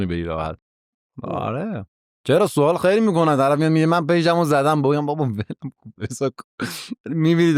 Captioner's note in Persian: خنده